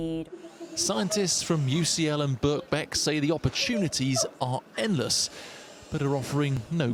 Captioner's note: voice-over